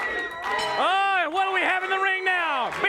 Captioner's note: bell dinging